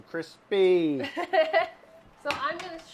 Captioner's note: laughing